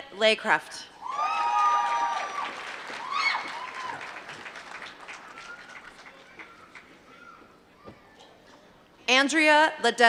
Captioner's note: applause